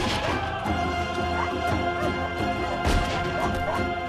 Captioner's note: dogs barking